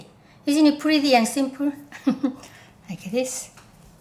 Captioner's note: chuckling